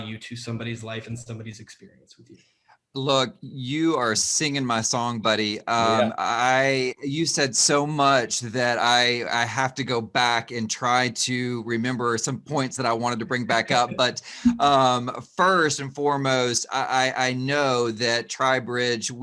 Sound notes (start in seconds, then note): 13.4 laughs